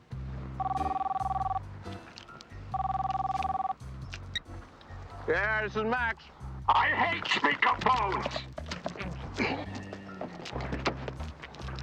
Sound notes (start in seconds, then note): 0.7 phone ringing; 0.7 quirky music